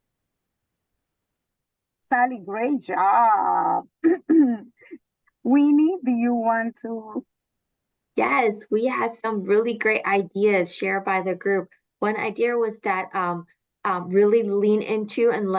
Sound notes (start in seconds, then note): 4.0 clears throat